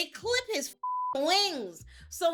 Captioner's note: beep